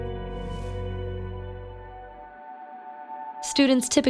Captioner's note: air whooshing